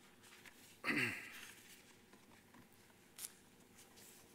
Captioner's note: clears throat